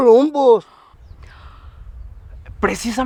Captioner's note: wind blowing